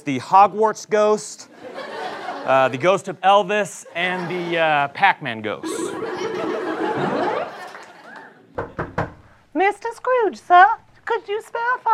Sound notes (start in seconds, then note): 8.5 knock on the door